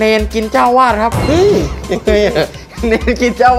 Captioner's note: laughing